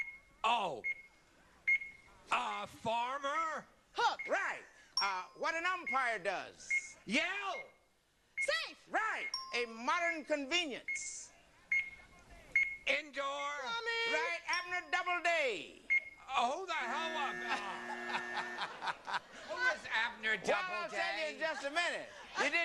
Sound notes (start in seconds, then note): 4.9 bell; 9.3 bell; 16.8 buzzer; 16.9 laughing